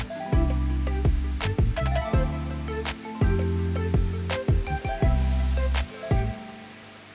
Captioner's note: upbeat music; water spraying